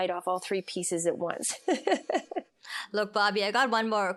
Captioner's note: laughs